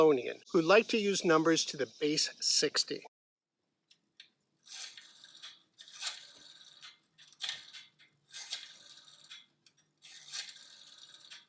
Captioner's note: dialing a rotary phone